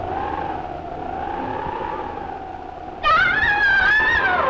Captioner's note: screaming